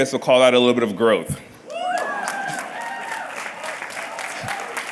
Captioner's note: cheers and applause